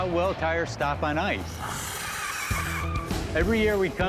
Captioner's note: squealing